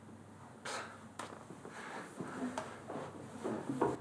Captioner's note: Tyler sighs